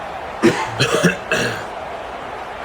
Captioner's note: crowd Noises; cough